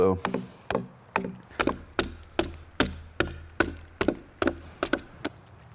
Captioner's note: tool banging continues